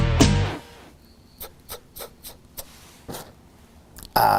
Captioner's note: inhaling